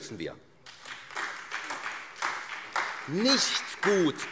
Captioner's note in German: Beifall SPD